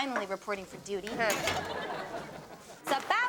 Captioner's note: audience laughing